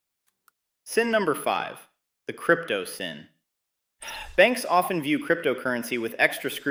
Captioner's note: sighs